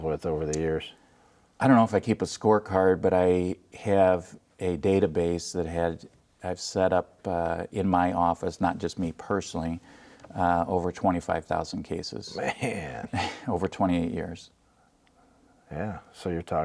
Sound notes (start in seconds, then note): 12.3 laughing; 14.5 laughing